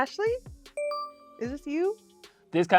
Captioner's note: bell dings